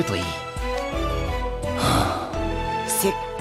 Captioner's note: sigh